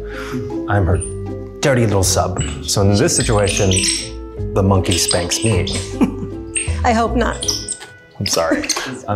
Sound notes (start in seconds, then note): 5.4 laughs